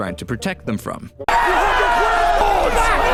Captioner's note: crowd screaming